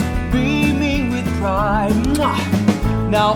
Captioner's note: kisses